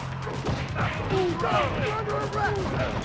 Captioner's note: blows thudding; officers grunting